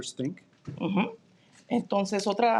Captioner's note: speaking in Spanish